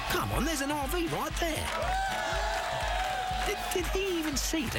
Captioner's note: cheering